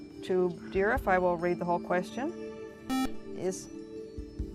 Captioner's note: buzzer